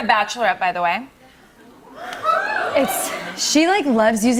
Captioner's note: audience "Ooh"s